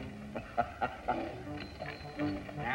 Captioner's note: laughter